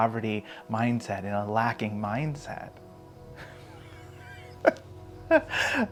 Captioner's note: laughs heartily